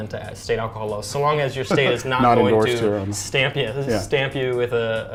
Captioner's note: laughs